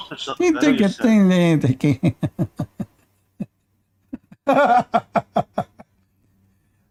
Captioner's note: Ketawa